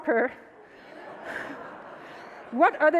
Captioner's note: audience laughs